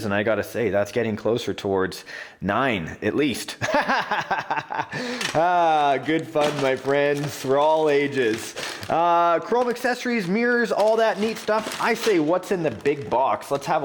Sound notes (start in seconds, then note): 3.6 laughing